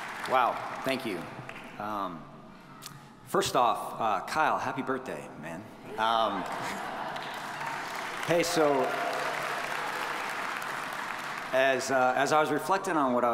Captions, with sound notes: - Wow, thank you. First off, Kyle, happy birthday man. (audience laughing) (audience applauding) Hey, so as I was reflecting on what I was going to say today,